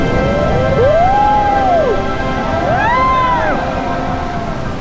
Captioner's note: crowd cheering